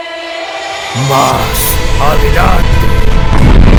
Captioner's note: epic tone voice with reverb